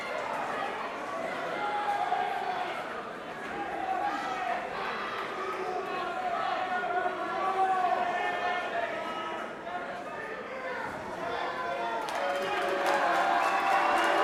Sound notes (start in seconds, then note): 0.2 crowd chatter; 2.7 crowd cheering